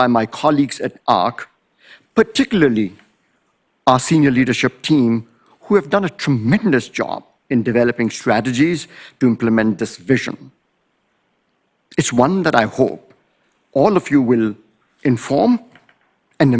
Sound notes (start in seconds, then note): none